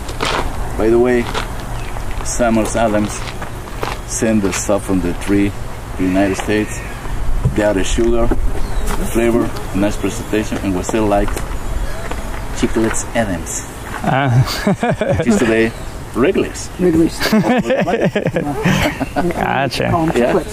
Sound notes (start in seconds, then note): 17.1 laughs